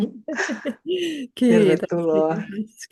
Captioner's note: naurua